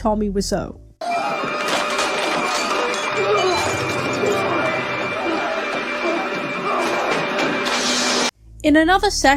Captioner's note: smashing noises